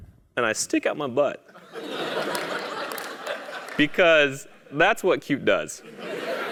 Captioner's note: laugh